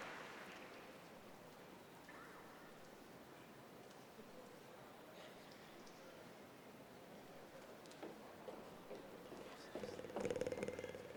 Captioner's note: applause